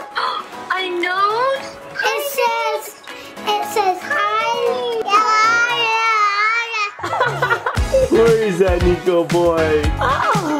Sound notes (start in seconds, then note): 0.8 gasps; 7.0 laughs